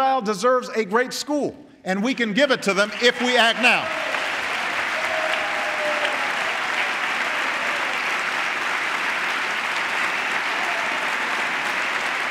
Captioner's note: applause